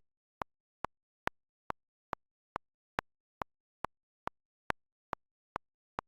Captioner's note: quick tapping of a metronome